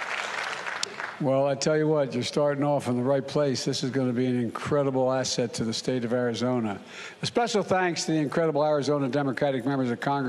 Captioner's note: applause